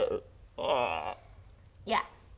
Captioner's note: ribbet; sad ribbet